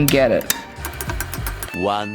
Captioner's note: metal clanging